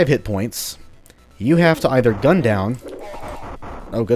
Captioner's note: 8-bit Ashes noises